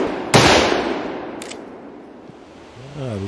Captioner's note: click